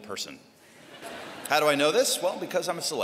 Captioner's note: laughter